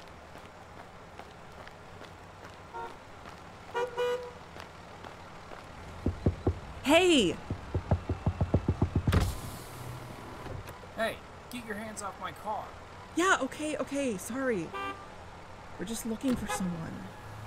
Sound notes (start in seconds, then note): 6.0 Robin knocks on a car window repeatedly; 9.7 car window rolls down